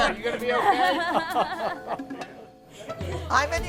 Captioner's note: laughs